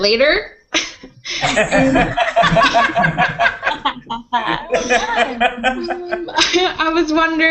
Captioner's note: laughter